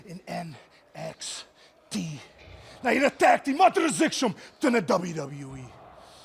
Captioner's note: speaking in foreign language